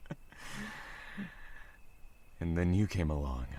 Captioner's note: small laugh